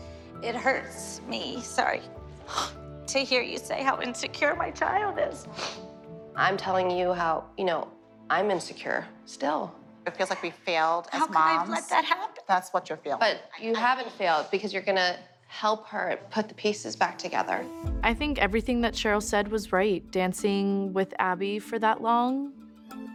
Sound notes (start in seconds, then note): 2.4 sniffles; 5.4 sniffles